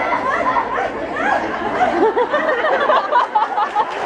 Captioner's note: audience laughs and cheers; Marissa Meyer screaming